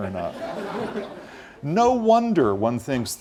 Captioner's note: laugh